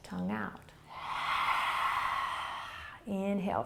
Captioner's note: exhaling